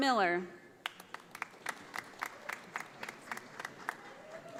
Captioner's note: audience applauding